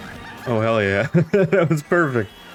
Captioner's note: laughs